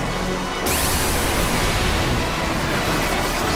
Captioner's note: energy warbling